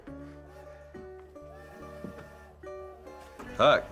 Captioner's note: train whistle tooting